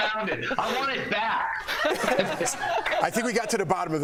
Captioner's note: laughter